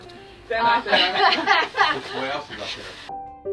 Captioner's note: all laughing; piano music